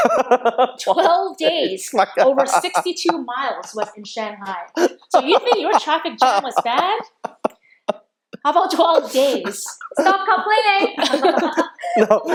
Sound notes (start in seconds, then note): 0.0 laughing; 8.4 all laughing